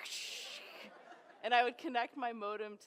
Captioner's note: crackling noises